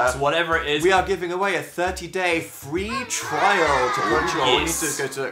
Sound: children cheering sounds effect

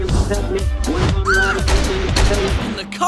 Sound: multiple gunshots sounds

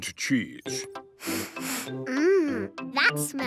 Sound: sniffs

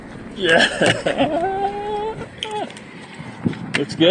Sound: excitedly; celebratory utterances

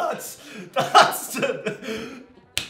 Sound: laughs

